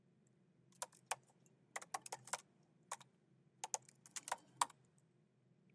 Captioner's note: keyboard clacking continues